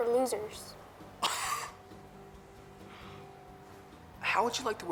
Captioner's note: scoffs